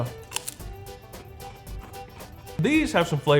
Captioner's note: chip crunching